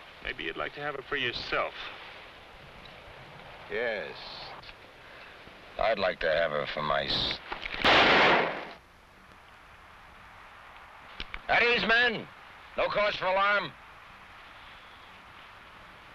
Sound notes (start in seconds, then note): 7.8 gun blasting